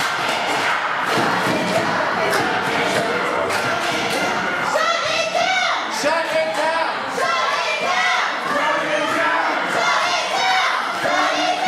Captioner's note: audience chanting shut it down